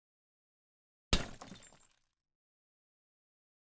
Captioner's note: glass breaks